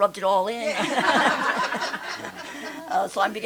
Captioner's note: laughter